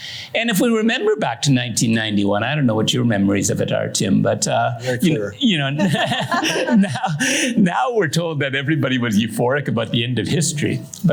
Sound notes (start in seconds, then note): 5.7 laughter